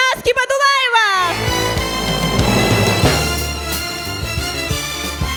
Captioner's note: applause